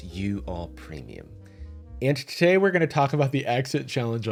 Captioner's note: in a regular voice